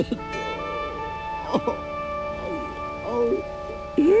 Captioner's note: James sobbing